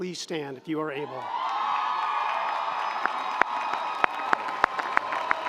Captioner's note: audience applauding